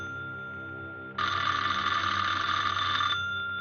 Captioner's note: phone ringing